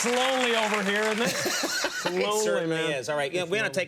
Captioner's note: Conan laughs